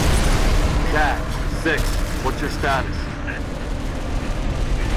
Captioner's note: radio